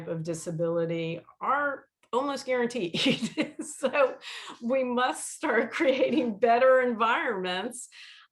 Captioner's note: laughter